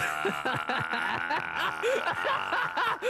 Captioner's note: laughs